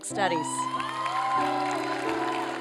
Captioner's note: applause